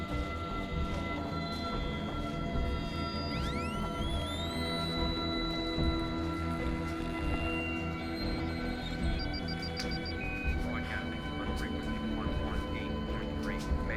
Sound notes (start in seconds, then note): 2.5 high-pitched ringing; 9.0 distant radio chatter